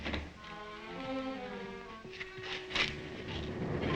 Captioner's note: feet scrape